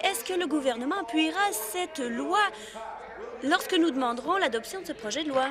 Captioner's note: applause